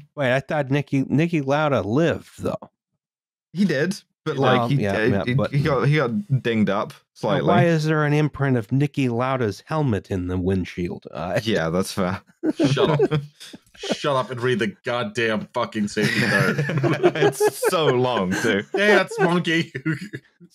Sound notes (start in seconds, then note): 15.8 laughter